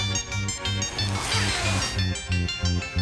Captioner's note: white suit unzipping